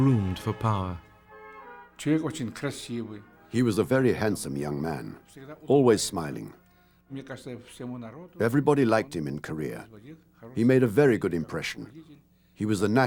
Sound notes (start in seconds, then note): 2.3 man speaking russian; 7.6 russian speech continues